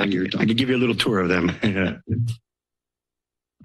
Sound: laughter

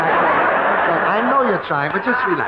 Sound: audience laughing

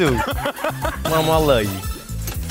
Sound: laugh

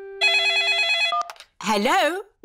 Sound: phone rings

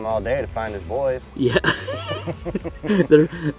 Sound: both laughing

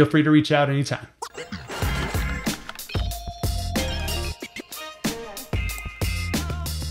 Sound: record scratching; upbeat music

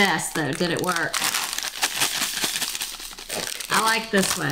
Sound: bag crinkling

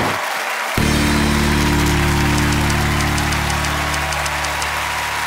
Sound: cheers and applause; bell dings

